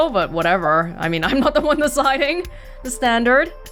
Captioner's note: chuckles